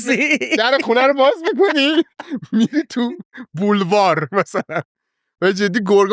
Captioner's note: laughs